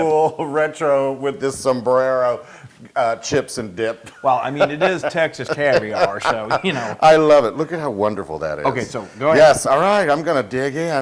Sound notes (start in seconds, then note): 4.1 laugh